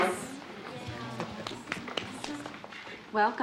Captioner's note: clapping